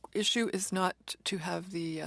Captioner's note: speaking French